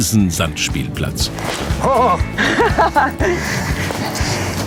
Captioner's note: laugh